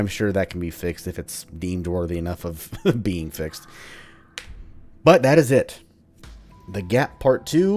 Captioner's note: laughs